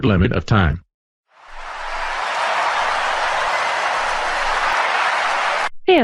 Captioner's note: cheering